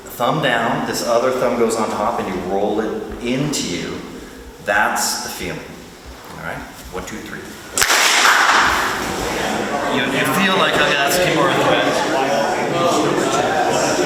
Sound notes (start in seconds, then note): 7.7 group claps